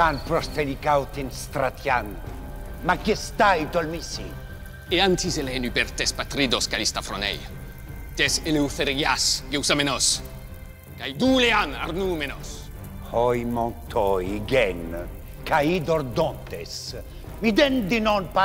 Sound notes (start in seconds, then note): 0.1 assemble member speaking in foreign language; 5.0 Themistocles speaking in foreign language; 13.2 assembly member speaking in foreign language